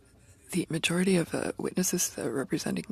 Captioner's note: speaking French